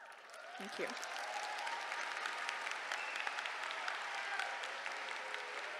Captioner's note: applause